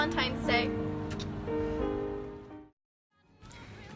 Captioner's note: blows kisses